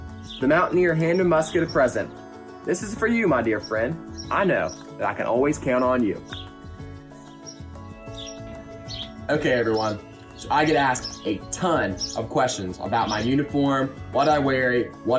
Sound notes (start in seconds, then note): 6.7 birds chirp; 6.7 upbeat music